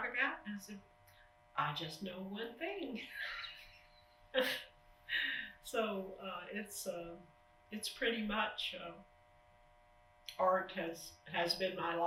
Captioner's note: laughs